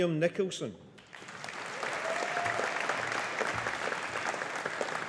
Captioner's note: audience applauding